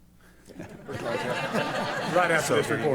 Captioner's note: laughter